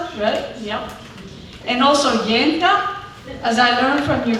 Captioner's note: speaking spanish